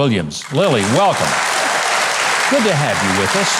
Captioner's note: audience applauding